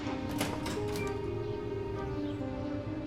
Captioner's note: door opening; birds chirping